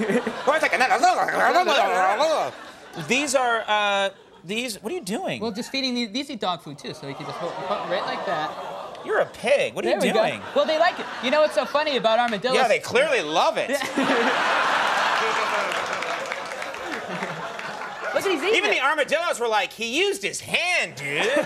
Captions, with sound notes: (Conan O'Brien chattering) What are you doing? Just feeding, these eat dog food too (audience groaning) so you leave it like that. You're a pig, what are you doing ? Well they like it. You know what's so funny about armadillos? Yeah they clearly love it. (audience laughing) Even the armadillo's were like, he used his hand, dude.